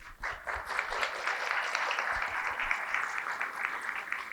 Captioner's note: applause